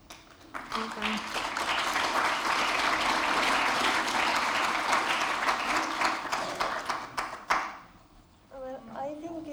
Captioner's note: applause